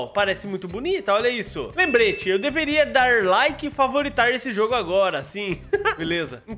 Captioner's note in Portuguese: risos